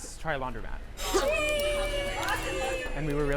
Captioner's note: children laughing